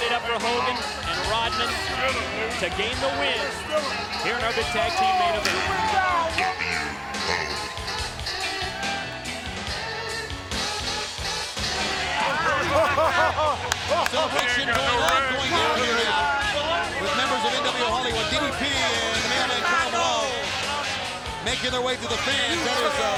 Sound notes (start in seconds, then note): 12.0 Hogan laughs; 13.0 Rodman claps